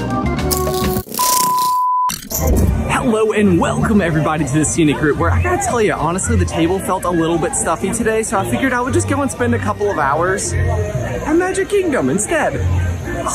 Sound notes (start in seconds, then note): 0.5 static rustling; 0.8 channel beeping